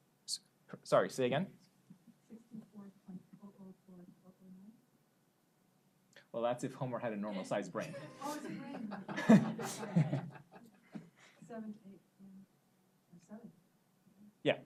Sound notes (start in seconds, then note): 7.8 audience laughs; 10.4 laughs